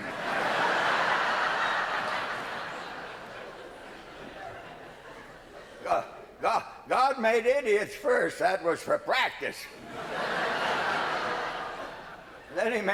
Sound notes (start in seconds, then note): 4.7 laughter